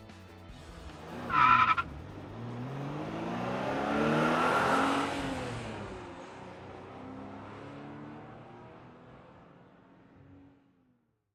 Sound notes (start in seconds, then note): 0.9 tires screeching; 3.3 engine revving; 6.4 vehicle driving away